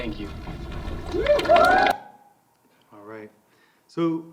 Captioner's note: crowd applauding